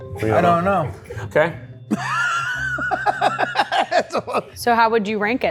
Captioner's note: laughs